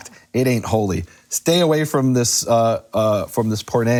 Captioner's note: speaking a foreign language